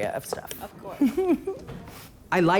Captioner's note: laughs